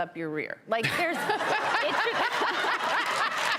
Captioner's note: laughter